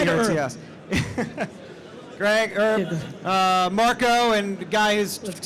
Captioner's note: laughs